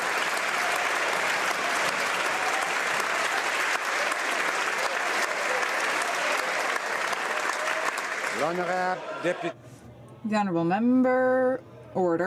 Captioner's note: some Applause